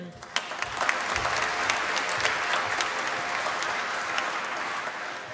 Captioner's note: applause